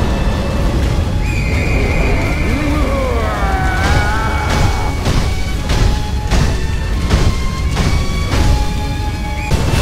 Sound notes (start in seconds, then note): 1.6 Malcontent rings